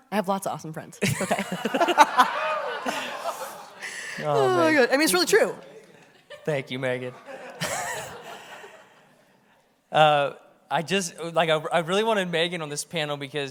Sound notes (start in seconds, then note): 1.0 everyone laughs; 7.0 audience laughs